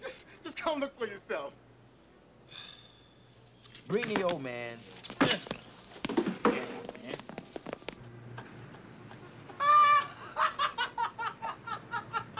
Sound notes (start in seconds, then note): 8.3 laughter